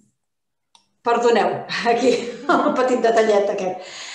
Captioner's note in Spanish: risas